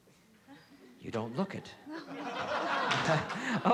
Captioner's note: laughter